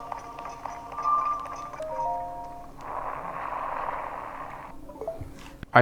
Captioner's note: misc Zelda sounds